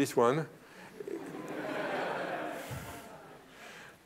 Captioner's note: laughter